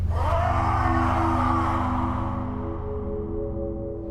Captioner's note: resonating howl